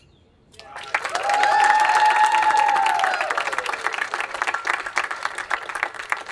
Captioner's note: attendees applauding and cheering